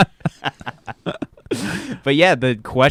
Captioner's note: laughing